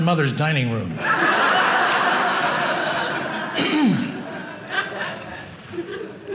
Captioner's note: audience laughing